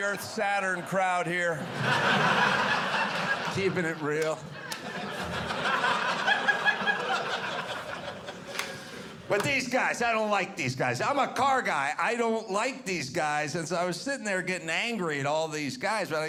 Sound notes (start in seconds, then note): 1.9 audience laughing; 6.5 audience laughing